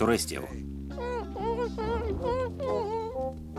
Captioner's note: whimpering